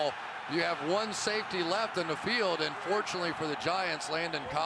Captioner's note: onfield chatter